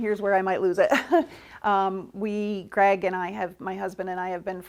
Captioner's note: laughs